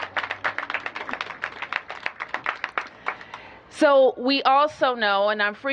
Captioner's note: applause